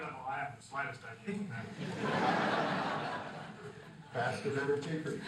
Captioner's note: crowd laughing